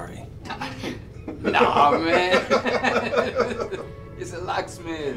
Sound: laughing

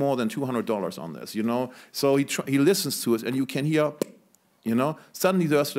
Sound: click

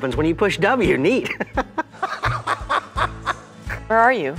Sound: laughs

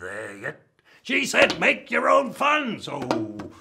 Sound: bamboo bonks; bamboo bonking

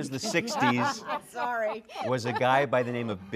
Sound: laughing

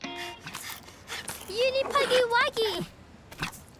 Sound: panting

